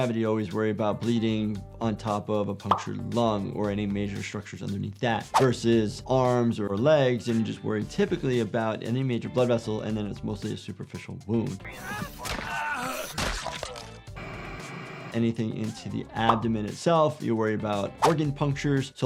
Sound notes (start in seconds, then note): 11.8 victim grunting; 12.9 blood spraying